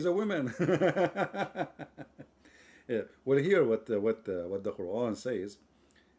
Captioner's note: Ketawa